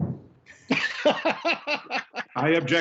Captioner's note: laughing